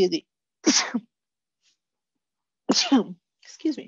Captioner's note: sneezing